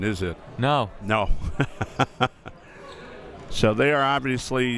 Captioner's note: laughing